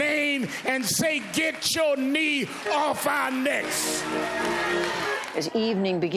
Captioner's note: cheers